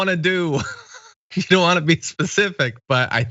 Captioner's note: laugh